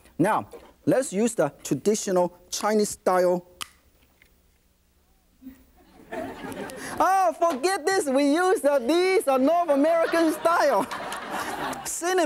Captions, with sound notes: Now, let's use the traditional Chinese-style- (cracking) (audience laughing) Oh, forget this, we use these American style cinnamon stick.